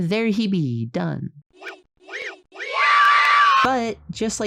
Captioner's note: distorted children cheering